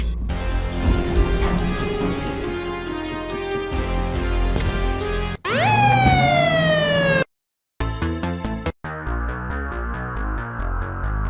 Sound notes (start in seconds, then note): 0.3 exciting music; 4.8 police sirens wailing; 8.0 dramatic music